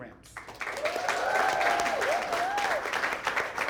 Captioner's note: applause